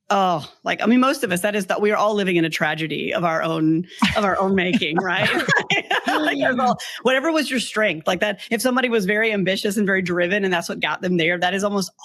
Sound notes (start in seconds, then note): 5.6 all laughing